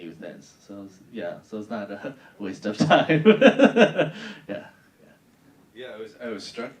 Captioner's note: laughing